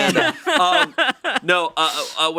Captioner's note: laughing